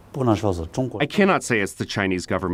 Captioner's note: speaking foreign language